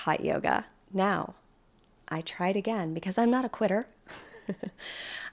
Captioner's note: chuckles